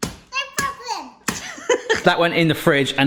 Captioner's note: laughing